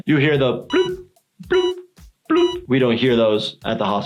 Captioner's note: blooping